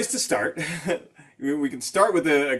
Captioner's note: chuckling